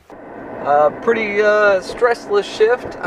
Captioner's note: car revving